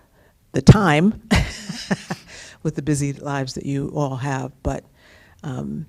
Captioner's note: laughter